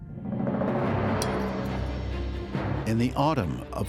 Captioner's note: a spoon clinks against a plate